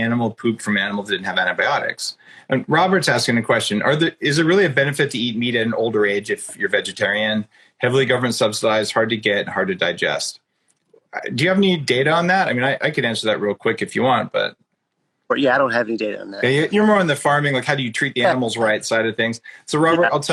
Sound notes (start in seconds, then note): 9.7 laughs